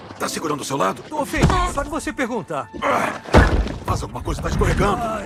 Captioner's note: grunting